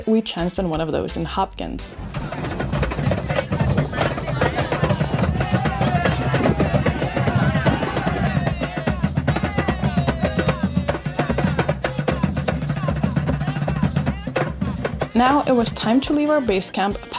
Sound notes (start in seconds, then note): 2.1 crowd chattering; 2.1 traditional drumming music